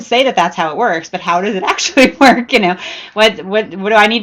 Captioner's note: laughs